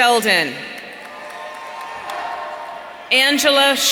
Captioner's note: audience cheering